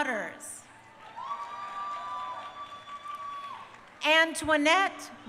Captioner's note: crowd cheering